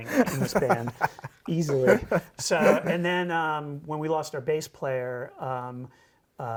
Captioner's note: laughing